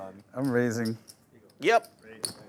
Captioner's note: voiceover